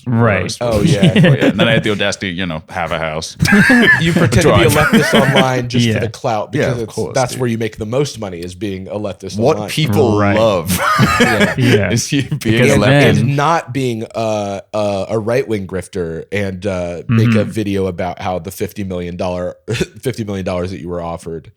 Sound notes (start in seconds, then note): 3.4 laughter; 9.8 laughs